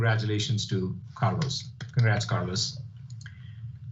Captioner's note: clapping